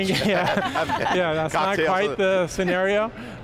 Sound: laughs

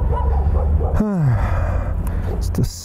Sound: sighs

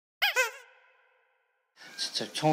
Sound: Nattering with Nah

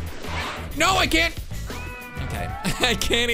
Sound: laughs

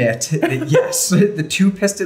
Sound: laughs

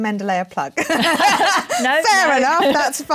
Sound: laughter

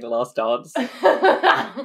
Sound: laughs

